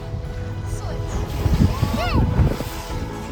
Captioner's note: children celebrating